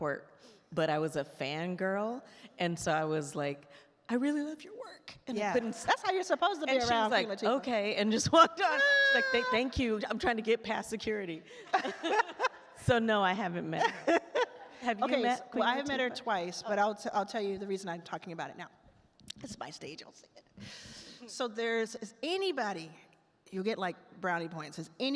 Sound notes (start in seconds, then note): 11.7 all laugh; 13.8 laughs